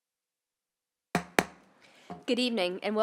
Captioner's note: gavel hitting dais